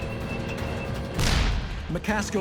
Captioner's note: shell firing